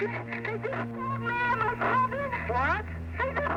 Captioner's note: yells on phone